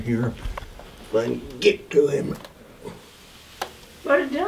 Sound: straining

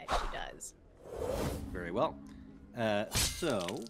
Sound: dagger hitting sound effect

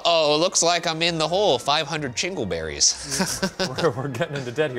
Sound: chuckles

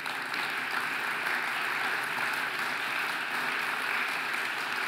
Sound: audience applauding

